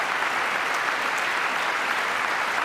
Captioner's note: applause